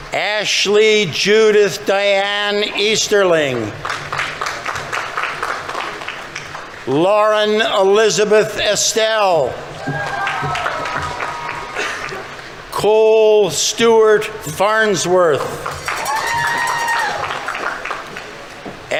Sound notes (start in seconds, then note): 3.2 audience applauding; 9.6 audience members cheering; 9.7 audience applauding; 15.3 audience members cheering; 15.3 audience applauding